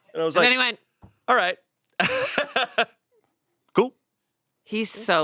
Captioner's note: laughs